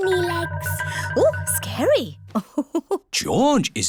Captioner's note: laughs